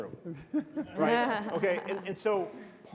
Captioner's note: audience and panelists giggle